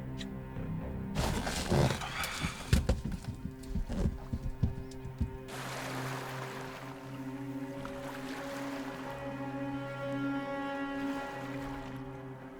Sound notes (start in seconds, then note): 1.4 Spencer sighs; 6.2 tense music; 6.2 water splashing